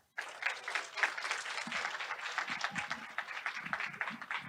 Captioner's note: audience applauds